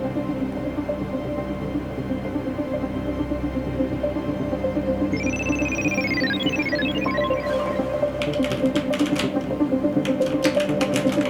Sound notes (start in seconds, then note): 5.1 computer chiming; 8.2 keyboard clacking